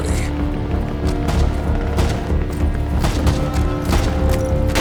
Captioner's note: gunshots sounding